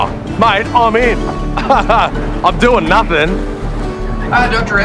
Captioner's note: chuckles